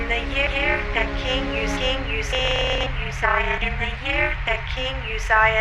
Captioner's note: distorted voice